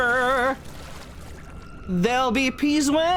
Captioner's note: singing; splashing; singing